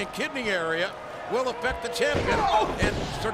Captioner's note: mat thumping